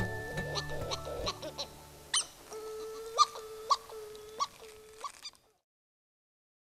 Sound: hawaiian petrel calling

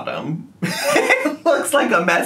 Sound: laughing

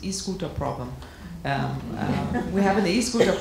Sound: audience laughing

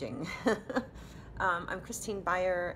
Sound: chuckling

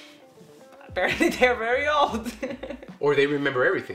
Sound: laughs

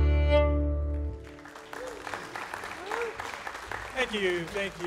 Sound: audience applauding

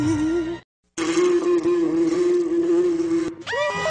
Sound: buzzing

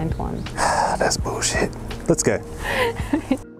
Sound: sigh

